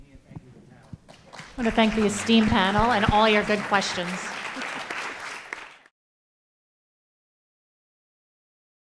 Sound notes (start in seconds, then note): 4.3 applause